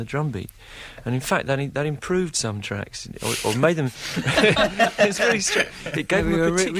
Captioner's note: laughter